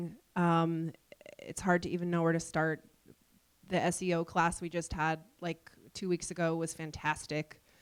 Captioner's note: none